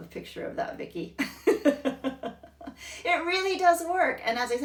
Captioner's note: laughing